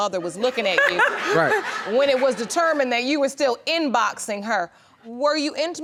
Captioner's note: laughing